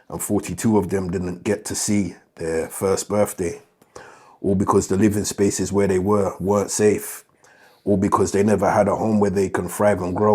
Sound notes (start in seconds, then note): none